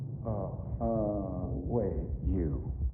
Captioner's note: calmly